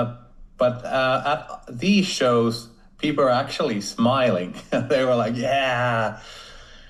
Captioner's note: chuckles